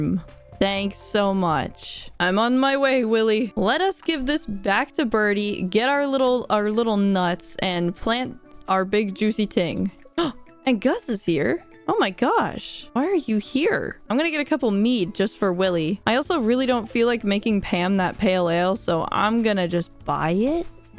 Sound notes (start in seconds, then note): 9.9 gasp